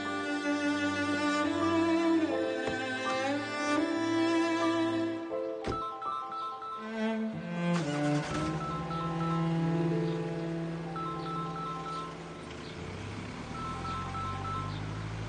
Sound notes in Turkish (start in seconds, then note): 5.6 telefon çalar; 10.7 duygusal müzik biter